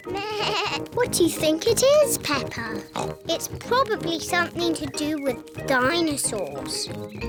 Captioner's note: bleats; oinks